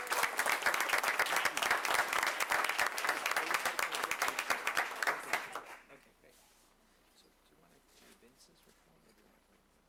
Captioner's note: applause